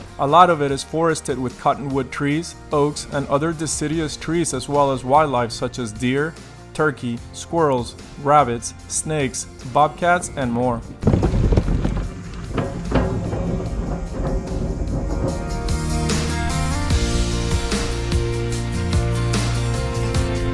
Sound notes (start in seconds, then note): 11.4 planks clanking; 15.8 gentle upbeat music